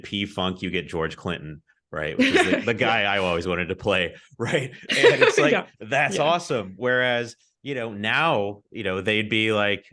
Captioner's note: laughs